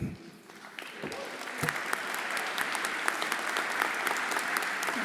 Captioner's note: everyone applauding